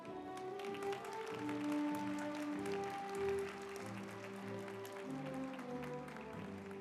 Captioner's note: group applauding; uplifting music